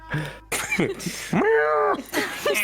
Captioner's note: giggles